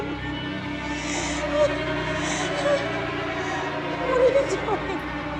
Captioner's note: The Matriarch sobbing